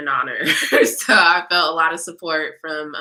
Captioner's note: laughter